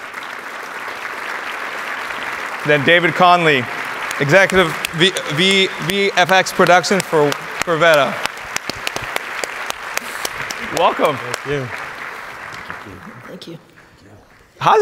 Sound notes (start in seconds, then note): 0.1 audience applauds; 8.7 audience applauds